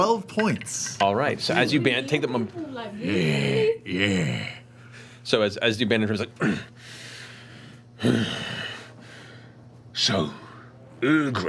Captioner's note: grunts, then breathes